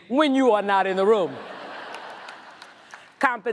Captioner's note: audience laughs